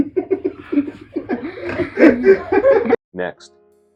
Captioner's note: laughter